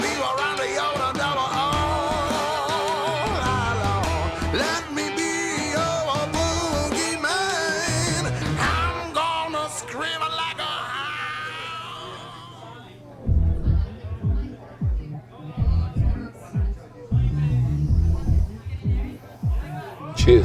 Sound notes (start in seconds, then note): 13.8 patrons chattering; 13.8 upbeat music